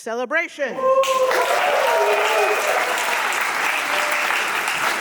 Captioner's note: audience cheering